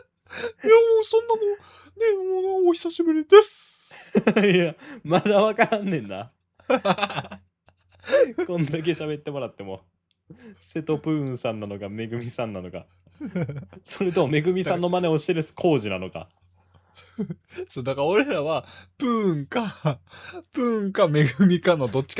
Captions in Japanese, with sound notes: [笑い] いや、もうそんなもうね、もうお久しぶりです。 いや、まだわからんねんな。こんだけ喋ってもらってもセトプーンさんなのか、恵さんなのか、それとも恵さんの真似をしてる浩なのか。 [笑い] [笑い] そうだから俺らはプーンかプーンか恵のどっちかでやってるから俺らとして俺らと同じ感性のリスナーってもしかして瀬戸浩司のチャンネルに集まってるんちゃん